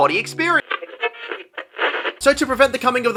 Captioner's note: radio static